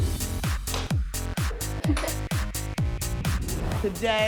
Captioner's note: upbeat music plays; chuckles